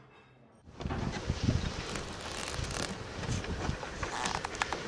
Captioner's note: townsfolk bustling